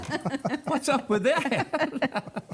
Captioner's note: laughter